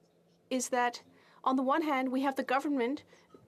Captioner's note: speaking French